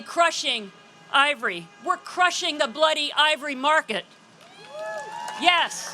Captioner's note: applause